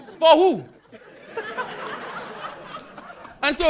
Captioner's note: audience laughing